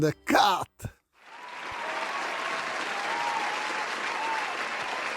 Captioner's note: crowd cheering